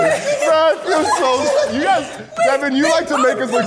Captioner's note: everyone laughs